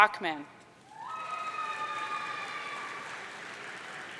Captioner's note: audience cheering